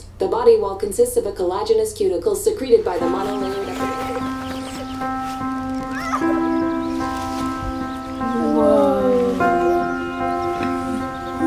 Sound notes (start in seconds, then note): 4.3 peaceful music; 5.8 child squealing